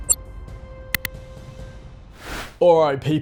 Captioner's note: click